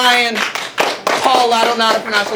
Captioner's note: clapping